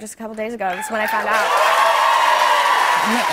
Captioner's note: cheers and applause